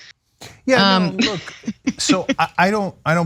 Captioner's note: laugh